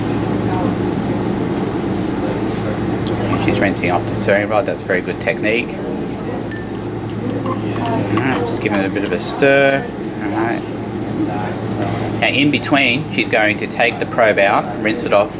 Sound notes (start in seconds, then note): 6.5 clinking